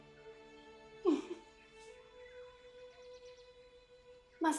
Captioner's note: giggling